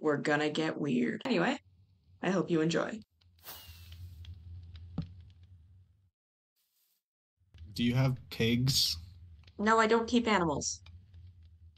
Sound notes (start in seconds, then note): 3.4 the sound of firework rockets going off